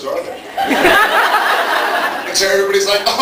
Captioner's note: laughs